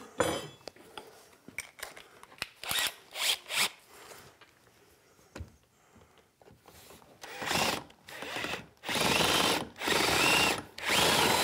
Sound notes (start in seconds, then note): 0.5 metal clanks; 3.0 drill buzzing